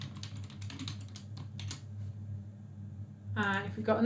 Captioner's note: keyboard clicks